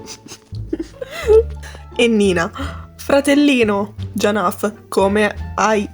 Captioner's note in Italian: Risata non contenuta